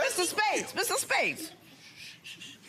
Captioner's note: hushes